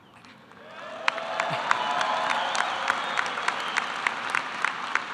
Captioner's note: cheering and applause